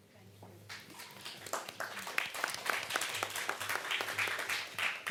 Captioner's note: applause